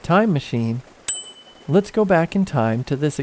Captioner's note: time machine dings